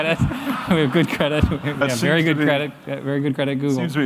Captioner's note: laughter